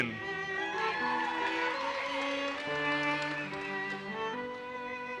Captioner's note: audience cheers and applauses